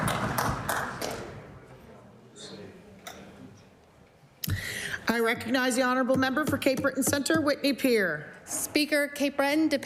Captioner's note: applause